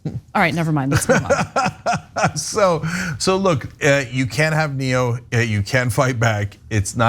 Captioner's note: laugh